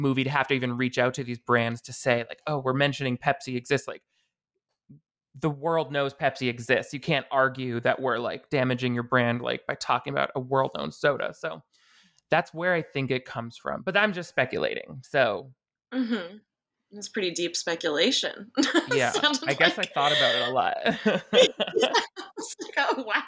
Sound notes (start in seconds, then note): 18.6 laughing; 21.6 both laughing